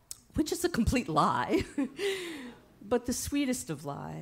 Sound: chuckles

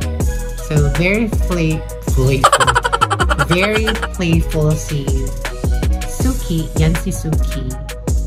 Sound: laughing SFX

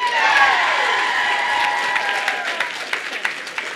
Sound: cheering

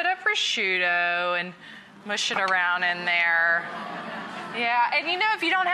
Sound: audience fawns

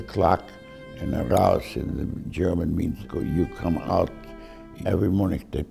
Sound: speaks in German

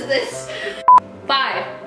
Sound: beeps

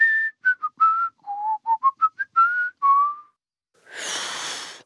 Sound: whistles a tune; failed whistle

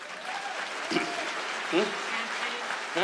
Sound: audience cheers

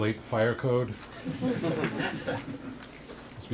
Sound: laughter

